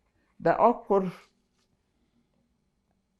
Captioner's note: pauses 6 seconds